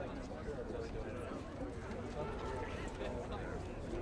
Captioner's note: indistinct chatter